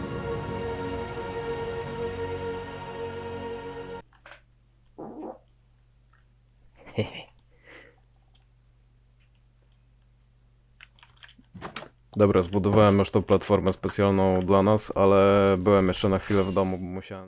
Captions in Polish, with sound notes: *odgłos pierdnięcia* hehe Dobra zbudowałem już tą platformę specjalną dla nas ale byłem jeszcze na chwilę w domu, bo musiałem...